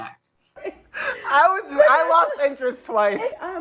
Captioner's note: laughing